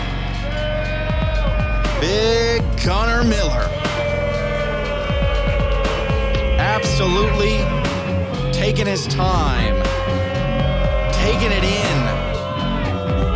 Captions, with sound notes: big Gunner Miller. (audience booing) Absolutely taking his time, taking it in,